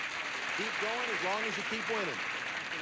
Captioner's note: audience applauding